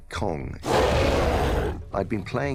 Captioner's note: Kong roars